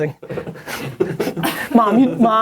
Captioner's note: people laughing